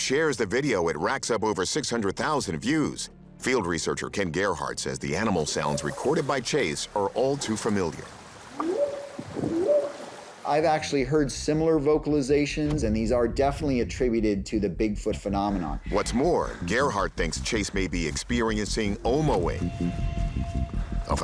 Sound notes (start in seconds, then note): 8.6 whooping sound